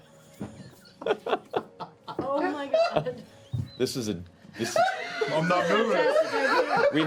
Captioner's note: laughs; laughter